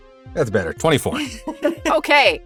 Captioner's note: chuckles